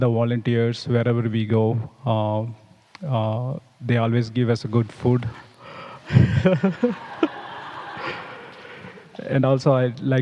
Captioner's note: laughs